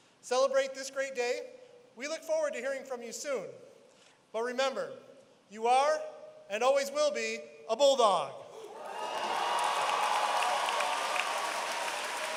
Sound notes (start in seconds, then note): 8.6 applause